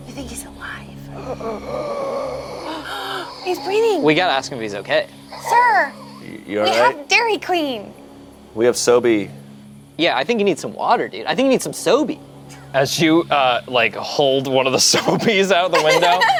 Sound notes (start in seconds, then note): 2.3 inhaling; 2.6 gasps